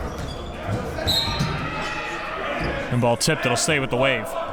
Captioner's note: whistle blows